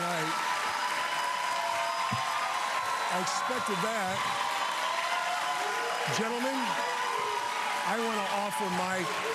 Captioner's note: applause